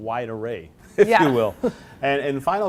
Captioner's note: laughs